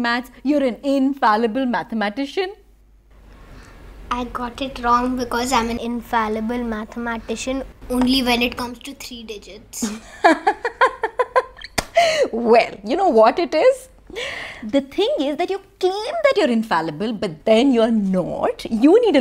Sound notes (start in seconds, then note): 9.8 laughing